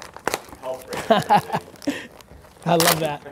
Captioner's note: laughter